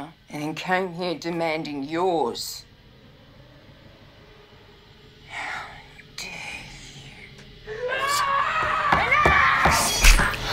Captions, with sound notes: and then came here demanding yours. How dare you. [screaming] Enough!